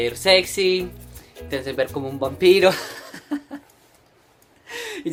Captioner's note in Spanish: risas